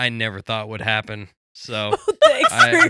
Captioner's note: laughing